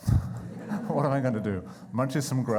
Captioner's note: laughing